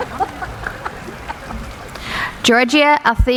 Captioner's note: laughing